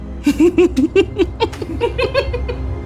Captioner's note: laughing maniacally